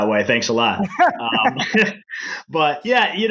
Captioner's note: laughing